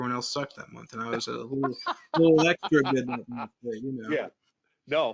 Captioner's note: laughs